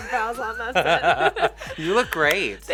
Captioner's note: laughs